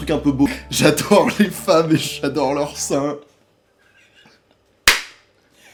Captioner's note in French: rire